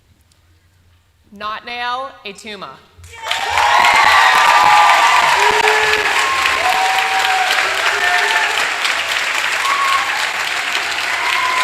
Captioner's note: applause